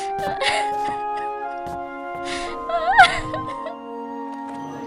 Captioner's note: cries